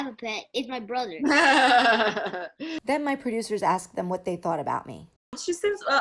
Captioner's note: laughs